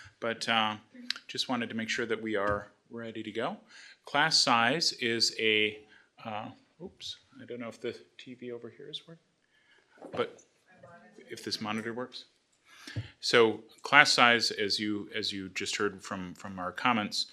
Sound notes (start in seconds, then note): 10.3 faintly speaking